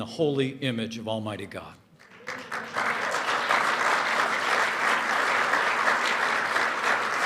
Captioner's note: applause